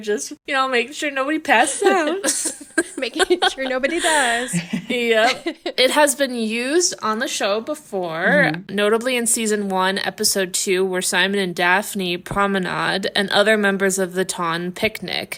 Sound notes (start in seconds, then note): 1.5 laughing